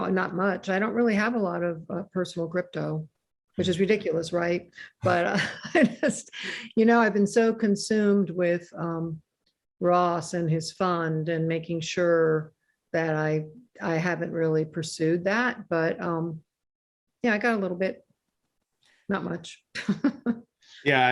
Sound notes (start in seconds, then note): 5.0 laughs; 19.9 laughs